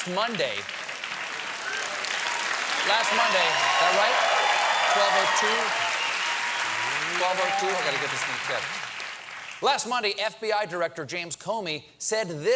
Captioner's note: applause